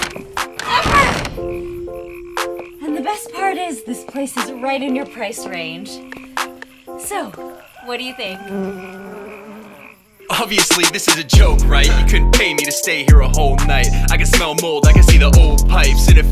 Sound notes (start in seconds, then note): 8.4 flies buzz